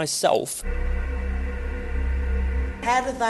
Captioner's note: deep ambient sound